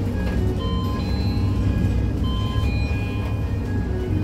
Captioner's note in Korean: 하차벨 소리